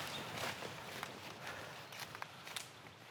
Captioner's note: breathing heavily